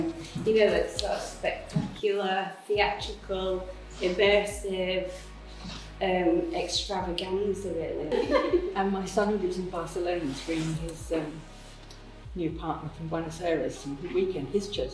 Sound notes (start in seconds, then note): 8.1 laughs